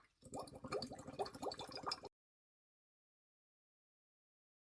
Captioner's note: water gurgles